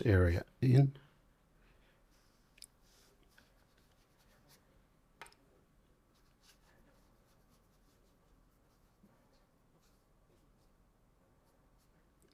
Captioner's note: silence